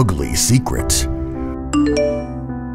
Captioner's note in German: Handy Klingelton